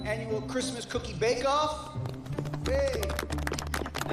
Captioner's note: applause